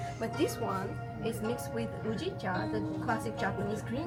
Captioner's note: speaks Japanese